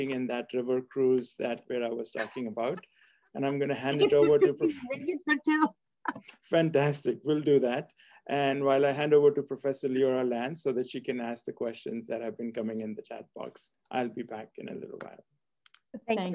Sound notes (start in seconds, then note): 3.7 laugh